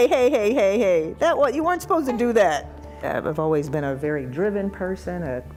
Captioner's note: crying